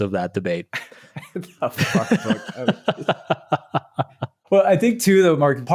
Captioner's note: chuckling